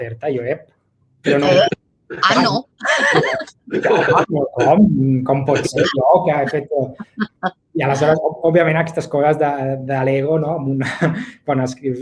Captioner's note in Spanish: risas